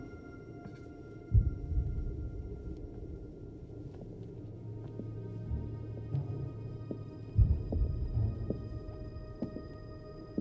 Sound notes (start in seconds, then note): 4.8 footsteps